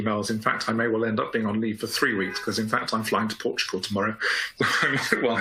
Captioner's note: laughs